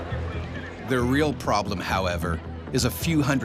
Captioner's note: voiceover